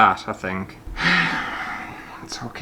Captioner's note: sigh